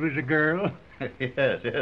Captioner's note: laughing